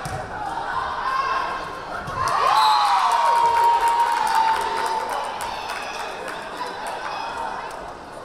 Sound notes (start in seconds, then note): 2.1 crowd cheering; 2.3 whistle blaring